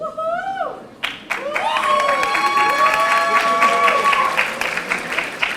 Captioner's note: audience applauding